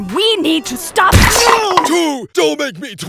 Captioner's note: loud crash